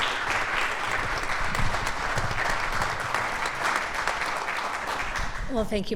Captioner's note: applause